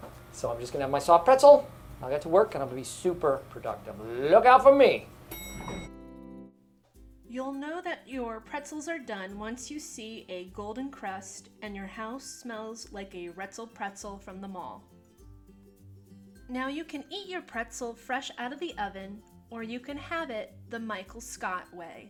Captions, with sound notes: "So I'm just gonna have my soft pretzel, I'll get to work and I'm gonna be super productive. Look out for me!" *Elevator Ding* You'll know that your pretzels are done once you see a golden crust and your house smells like a Wretzel Pretzel from the mall. Now you can eat your pretzel fresh out of the oven, or you can have it the Michael Scott way.